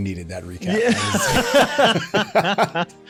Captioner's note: laughing